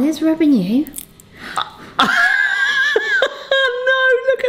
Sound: glue crunching; laughing

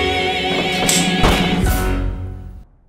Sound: gunshot

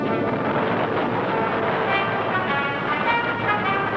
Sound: plane roaring

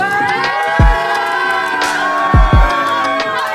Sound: cheering

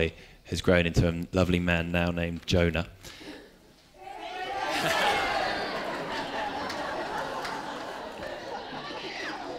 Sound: Shouts of “Berega Bingo” and laughter

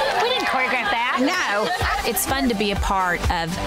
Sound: cheering; laughs; electronic dance music

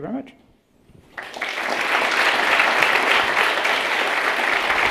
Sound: audience clapping

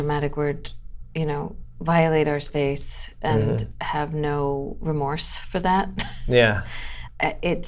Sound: laughter

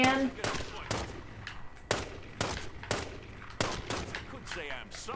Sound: gunfire

